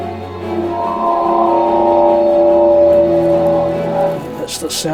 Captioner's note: metallic screaching